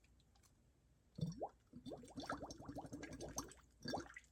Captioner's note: water gurgles